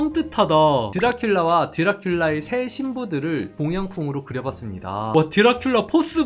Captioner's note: voiceover